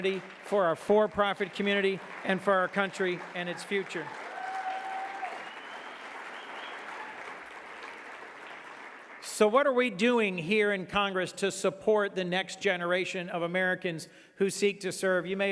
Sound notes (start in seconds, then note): 4.4 audience clapping and cheering